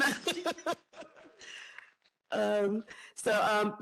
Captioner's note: laughing